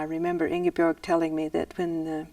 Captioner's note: voiceover